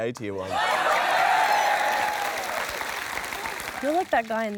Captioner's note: cheering, applause